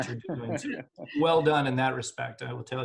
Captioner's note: laughing